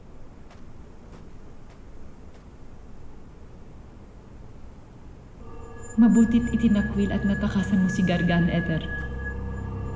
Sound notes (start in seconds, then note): 1.0 footsteps padding